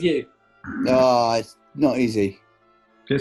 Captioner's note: sniggers